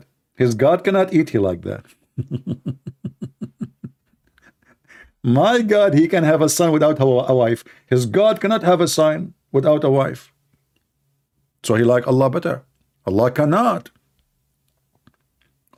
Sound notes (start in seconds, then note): 2.1 Ketawa